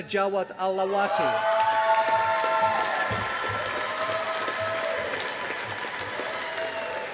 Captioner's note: audience applauding